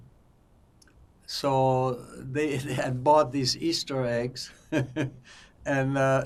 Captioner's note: laughing